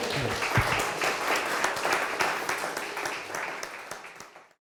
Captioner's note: audience applauding